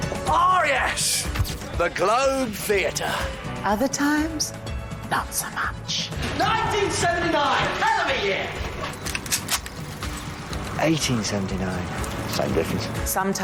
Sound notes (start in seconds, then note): 4.3 whispers; 8.8 gun cocks